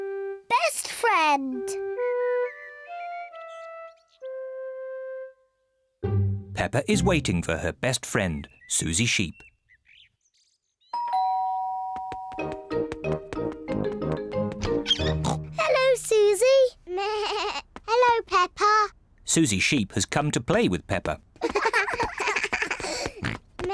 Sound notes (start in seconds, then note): 11.0 doorbell; 15.0 snorts; 17.0 bleats; 21.4 both laugh